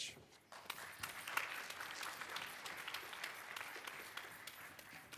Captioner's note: audience applause